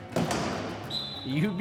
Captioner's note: whistle